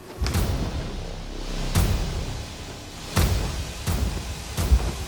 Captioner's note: distorted sound in slow motion